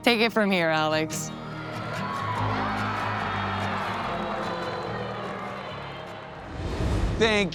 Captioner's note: light upbeat music; crowd cheering